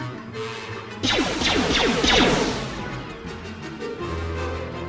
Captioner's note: gunshots